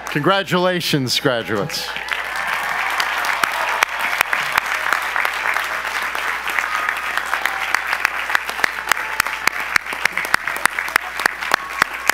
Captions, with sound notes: Congratulations graduates. (audience applause)